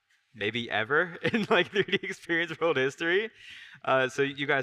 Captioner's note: laughs